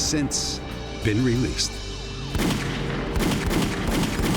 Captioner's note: gunfire